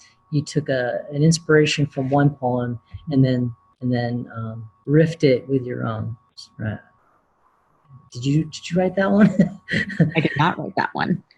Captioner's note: laughs